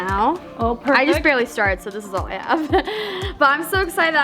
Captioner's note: laughs